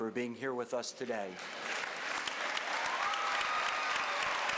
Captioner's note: applause